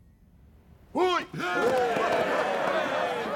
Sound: Stilgar shouts; all cheering

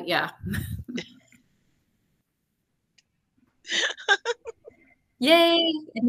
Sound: laughing

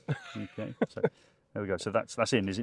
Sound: laughs

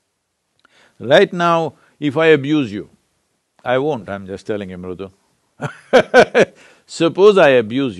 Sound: laughs

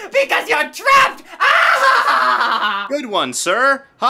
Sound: maniacal laugh

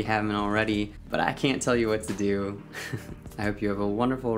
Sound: laughs

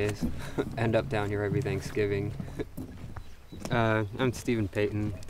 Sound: chuckles

